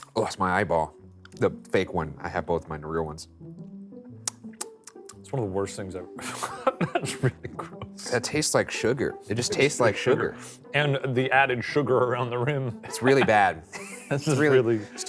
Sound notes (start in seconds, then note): 4.2 lips smacking